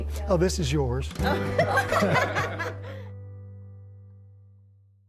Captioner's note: group laughing